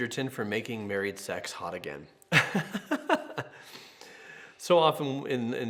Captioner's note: laughs